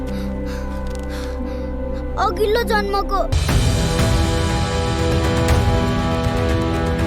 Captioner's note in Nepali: स्याँस्याँ गरेको आवाज